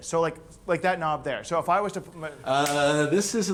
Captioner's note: hand slaps